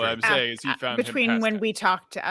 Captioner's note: murmurs